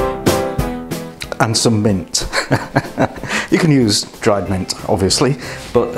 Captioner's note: laughs